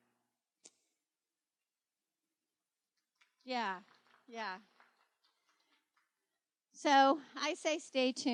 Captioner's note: applause